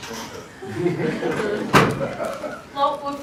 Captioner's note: laughter